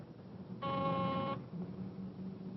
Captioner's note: phone ringing